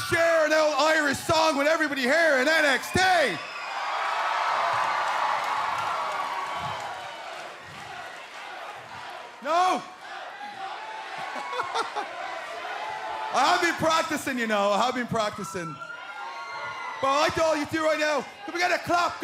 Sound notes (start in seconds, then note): 5.7 cheers and applause; 13.2 fans chanting